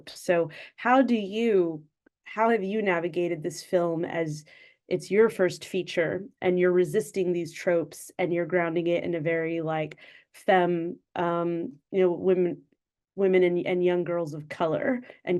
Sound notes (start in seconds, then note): none